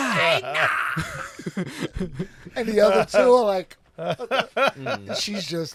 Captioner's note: laughter